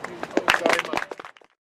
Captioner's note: applause